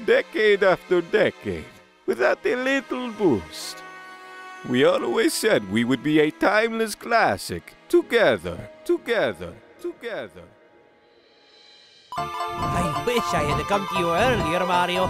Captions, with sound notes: Decade after decade.... Without a little boost. We always said we would be a timeless classic... Together... ("together" echoing) I wish I had come to you earlier, Mario!